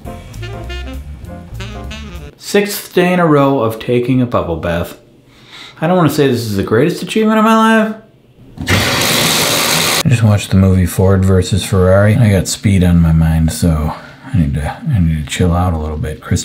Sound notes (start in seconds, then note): 0.0 jazz music; 8.6 water running